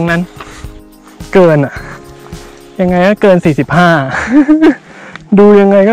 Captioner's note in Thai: ขำ